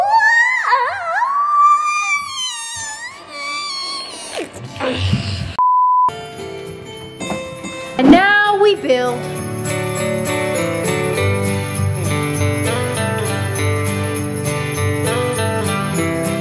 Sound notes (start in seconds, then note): 0.2 vocal harmonizing; 3.4 grunting; 5.8 metallic dinging; 6.6 piano chiming; 9.5 upbeat holiday music